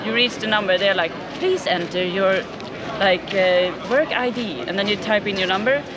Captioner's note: Electronic voice